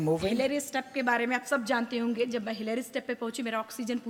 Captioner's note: speaks foreign language